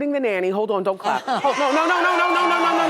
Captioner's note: audience applauding and cheering